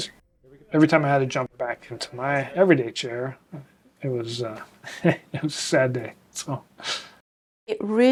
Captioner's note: laughs